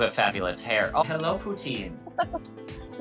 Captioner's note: graphic chiming; giggling